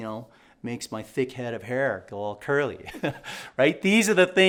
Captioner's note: chuckling